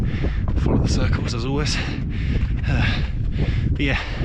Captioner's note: exhale